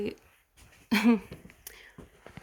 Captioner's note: laughs